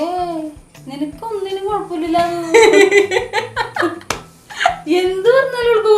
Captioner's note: distracting laughter